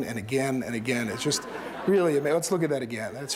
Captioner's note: laughter